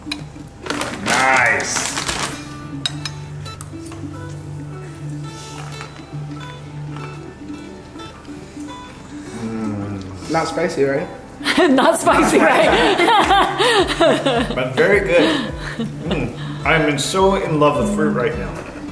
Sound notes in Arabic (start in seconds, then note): 3.9 موسيقى إيقاعية ناعمة; 13.1 يضحك